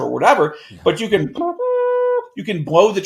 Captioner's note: imitates trumpet sounding